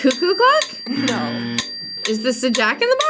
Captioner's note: buzzer